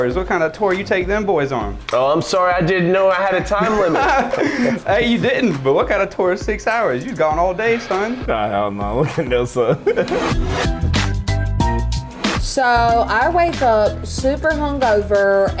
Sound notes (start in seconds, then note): 3.6 laughing; 10.3 upbeat electronic piano music